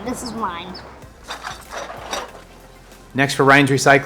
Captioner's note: bottle squeaking